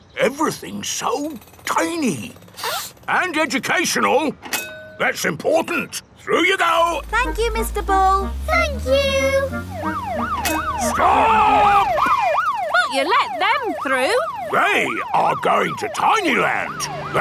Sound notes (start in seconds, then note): 2.5 sniffs; 10.1 siren wailing